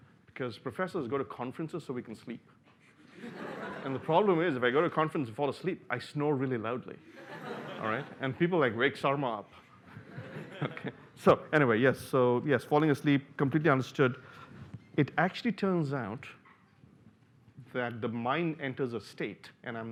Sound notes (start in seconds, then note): 9.9 laughter